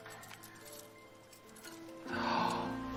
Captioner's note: gasps